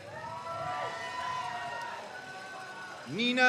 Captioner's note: crowd cheers